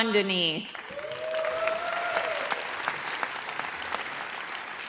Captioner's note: audience cheers